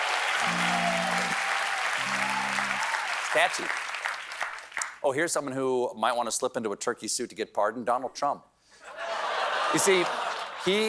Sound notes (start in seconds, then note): 0.0 cheers and applause; 0.2 gobbling